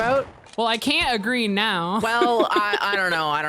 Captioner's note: laughs